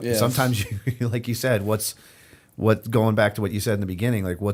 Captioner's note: chuckle